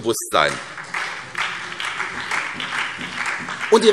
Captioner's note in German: Beifall